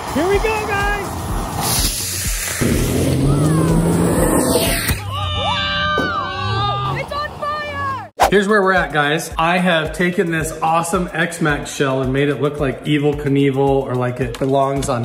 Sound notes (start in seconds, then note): 2.6 rocket sounds; 5.0 cheers